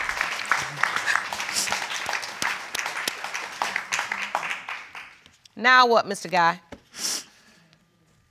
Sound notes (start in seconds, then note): 0.6 sobbing; 6.9 sniffling